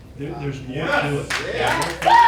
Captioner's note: crowd cheering